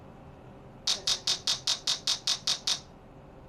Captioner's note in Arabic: طنين الجهاز